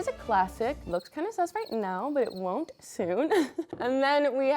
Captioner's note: laughs